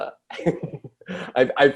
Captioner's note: Jordan laughs